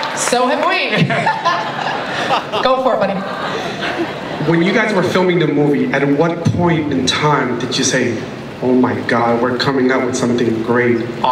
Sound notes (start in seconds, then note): 1.0 laughter; 4.5 voiceover